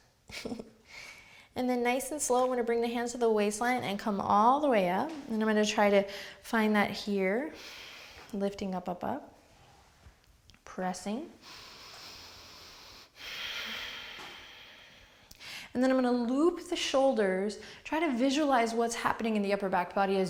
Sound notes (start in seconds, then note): 0.3 giggles; 11.4 inhales; 13.4 exhales